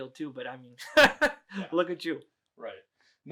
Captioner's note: laughs